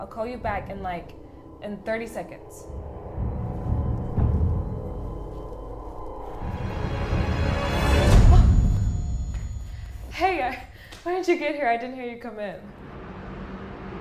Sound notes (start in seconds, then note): 3.7 tense ominous music; 8.3 Hillary yelps